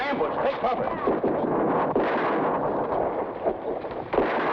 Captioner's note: gunshots blast